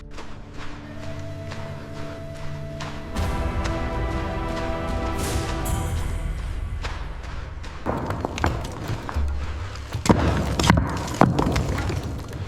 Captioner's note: water dripping